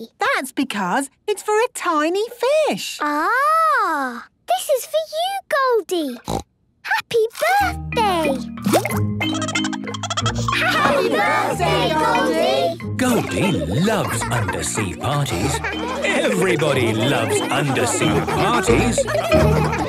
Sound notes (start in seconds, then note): 6.2 snorting; 9.2 Goldie giggling; 18.9 laughter